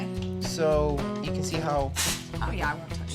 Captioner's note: sizzling sound